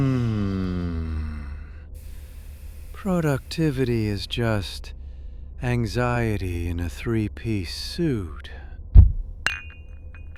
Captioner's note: sleep-mumbling